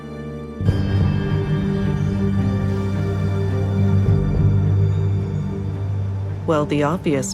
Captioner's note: ominous music; birds chirping